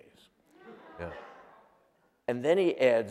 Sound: laughter

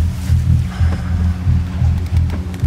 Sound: sighs

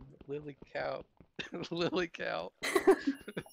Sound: laughs

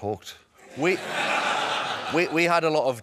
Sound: laughter

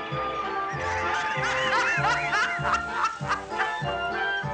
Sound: cackling

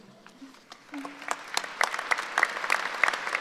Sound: applauding

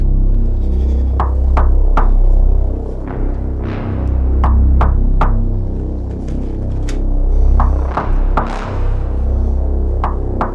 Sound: knocking on door

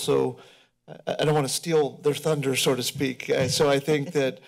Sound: laughter

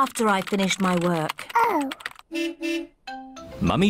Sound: car horn beeps

